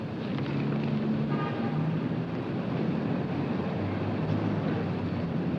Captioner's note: car horn honking